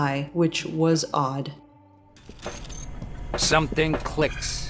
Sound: mechanical steps

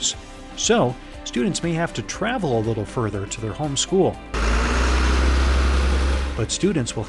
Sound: sound of a school bus

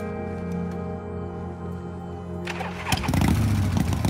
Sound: switch clicks; engine starts

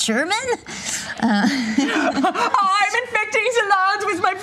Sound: laughs; imitating German accent

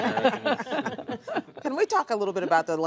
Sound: laughter

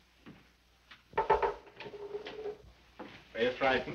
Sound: door knocking

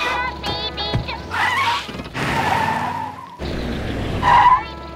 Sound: tires squealing

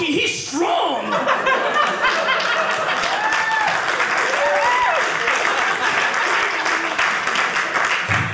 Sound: audience cheering

